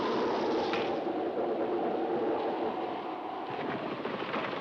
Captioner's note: wind howling